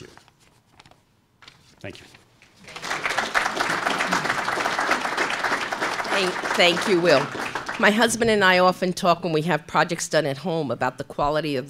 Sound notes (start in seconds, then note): 0.7 applause